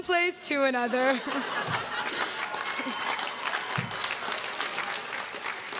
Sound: crowd claps and cheers

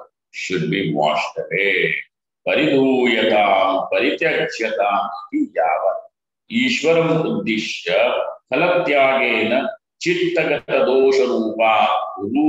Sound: sanskrit

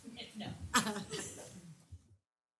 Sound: laugh

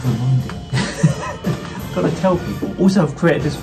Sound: chuckling

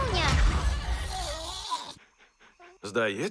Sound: yawns

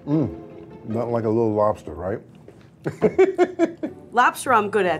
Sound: laughs

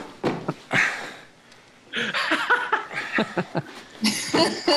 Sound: both laugh; laughs

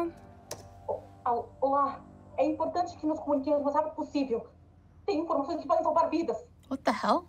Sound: foreign language

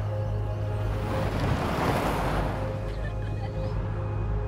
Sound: gentle music; tires grinding; camper laughing

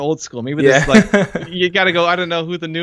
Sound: laughter

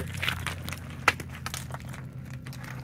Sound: rocks crashing down

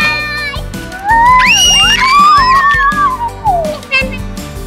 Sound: screaming

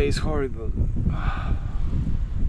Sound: sighs

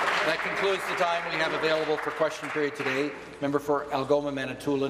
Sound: applause

